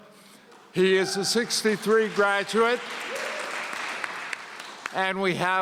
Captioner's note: audience cheering